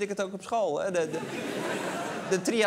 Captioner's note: laughter